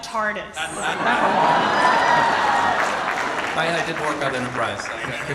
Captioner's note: audience cheers